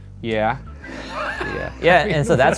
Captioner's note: laughs loudly